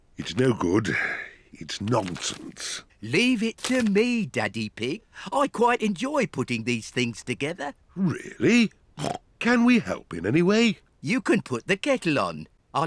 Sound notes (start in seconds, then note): 8.9 snorts